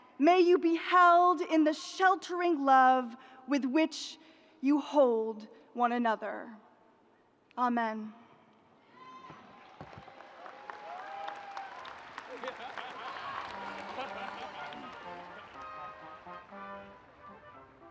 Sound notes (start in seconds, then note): 9.4 audience applauding; 13.6 upbeat music